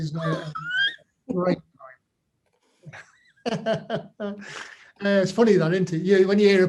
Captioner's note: laughs